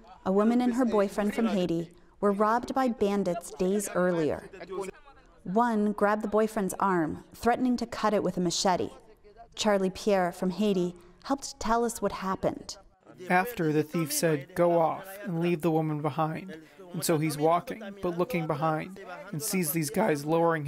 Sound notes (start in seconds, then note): 13.4 through translator